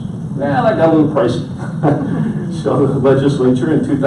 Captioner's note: laughs